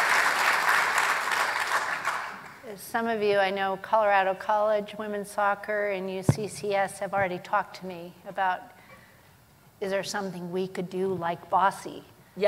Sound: applause

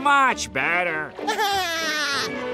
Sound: laughing

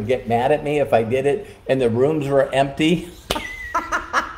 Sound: laughing

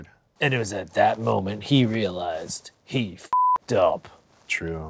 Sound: beep

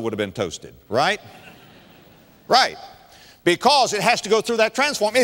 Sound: audience laughter

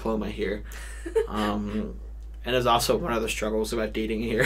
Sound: chuckles

